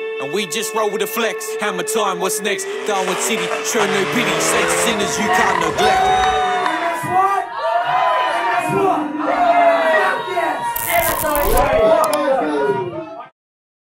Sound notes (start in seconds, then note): 7.5 crowd; 9.3 crowd